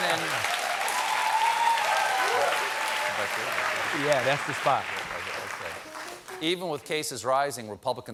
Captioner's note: cheers and applause